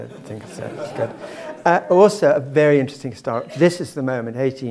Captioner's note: laugh